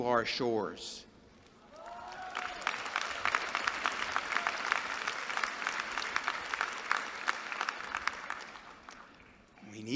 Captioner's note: applause